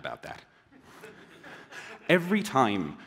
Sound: laughter

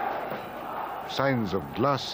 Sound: yelling

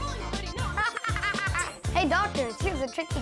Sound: laughing

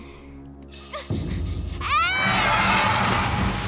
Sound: panting

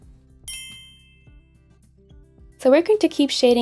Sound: ding rings

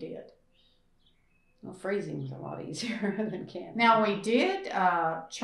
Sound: laughs

